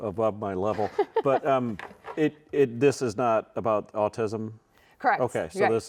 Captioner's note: laughing